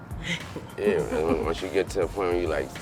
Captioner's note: chuckling